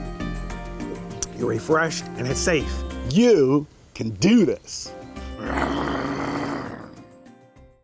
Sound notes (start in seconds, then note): 5.3 growls; 5.6 gentle instrumental music